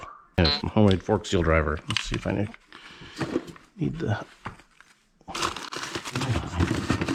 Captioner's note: rummaging noises